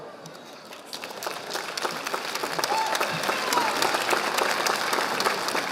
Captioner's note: audience applauding